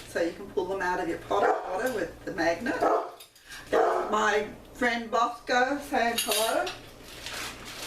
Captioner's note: dog barking